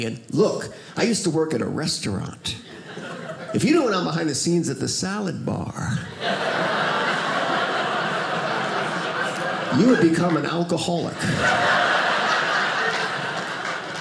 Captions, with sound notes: Look, I used to work at a restaurant. If you knew what went on behind the scenes at the salad bar (audience laughing) you would become an alcoholic. (audience laughing)